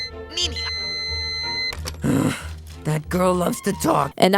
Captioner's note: groan